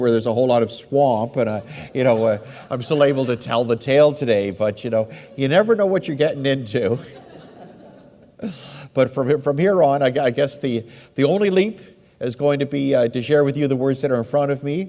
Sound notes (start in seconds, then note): 4.8 laughs; 7.7 audience laughs